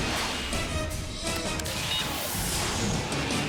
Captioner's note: jets whoosh through air